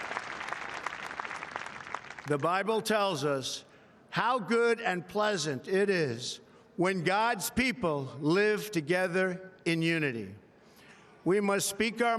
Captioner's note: applause